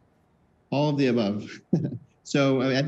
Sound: chuckles

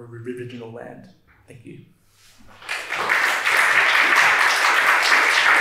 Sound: attendees applauding

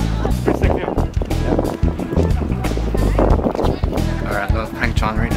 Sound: wind blowing loudly

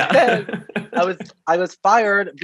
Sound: laughs

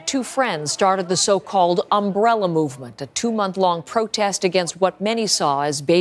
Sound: speaking foreign language

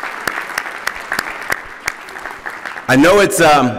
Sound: applause

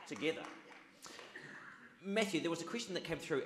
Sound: audience claps

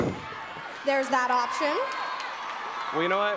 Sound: audience cheers

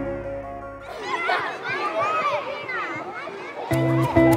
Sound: children laugh and talk

